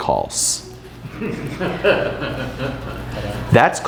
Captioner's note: group laughs